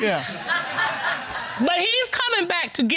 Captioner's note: audience laughs